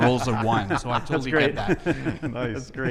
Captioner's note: laughing